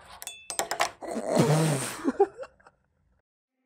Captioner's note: laugh